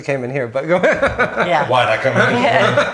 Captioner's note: laughs